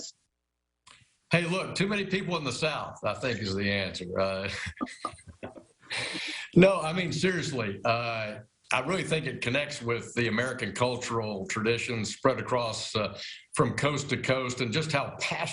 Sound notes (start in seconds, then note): 7.7 laughing